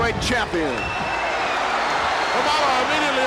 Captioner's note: audience cheers